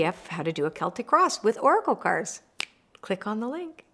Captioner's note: snaps